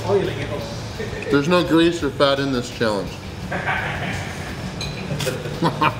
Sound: laughing

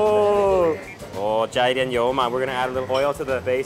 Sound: laughing; speaks in Chinese

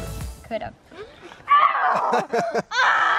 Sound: laughs; screams

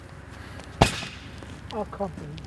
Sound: explosion

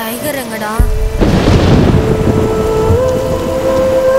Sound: thundering

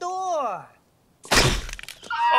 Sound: BB gun shot; scream

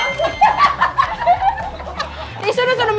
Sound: laughing

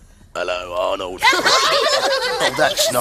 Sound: laughing

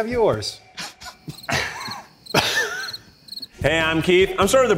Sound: crickets

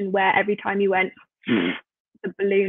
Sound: blows loudly

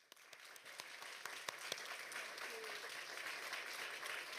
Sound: audience applauding

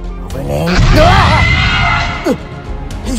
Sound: velociraptor screeching

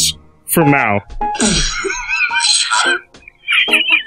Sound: laughing; snickering

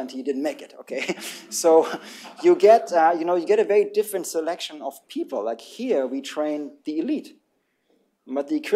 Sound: laughter

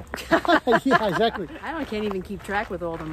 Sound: all laugh

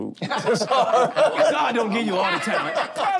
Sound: laughter

